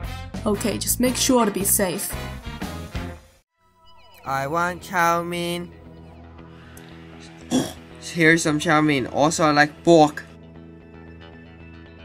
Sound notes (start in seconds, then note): 7.4 oink